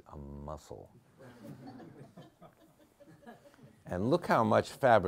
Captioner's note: members of the audience giggling